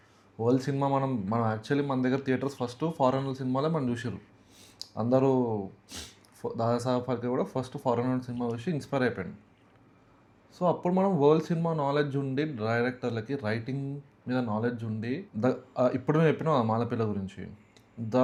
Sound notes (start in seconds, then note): 5.4 snoring